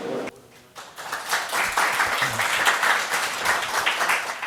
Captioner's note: audience applauding